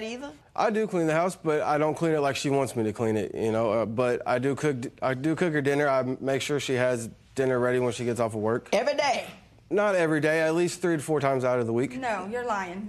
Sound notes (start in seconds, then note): none